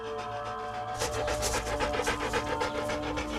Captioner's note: wolf panting; suspenseful music